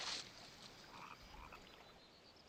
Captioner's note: frogs croaking